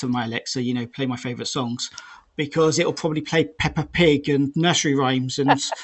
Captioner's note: laughter